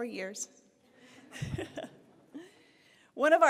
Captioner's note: chuckles